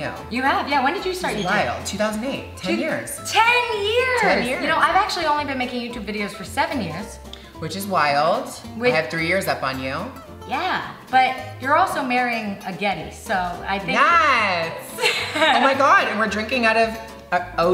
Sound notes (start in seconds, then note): 14.9 laughter